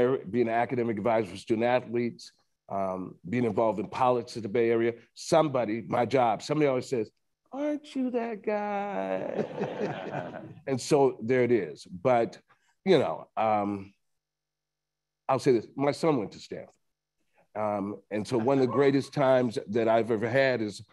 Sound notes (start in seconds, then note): 9.2 attendees laughing